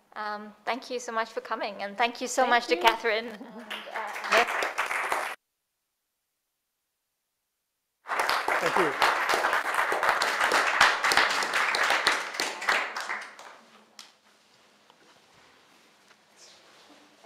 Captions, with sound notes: Thank you so much for coming and thank you so much to Catherine and Ernest. (audience claps) - Thank you. (audience claps)